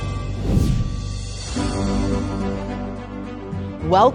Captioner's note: air whooshing